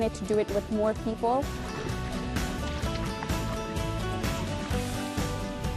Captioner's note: paddling